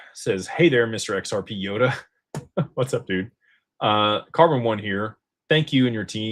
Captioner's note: laughter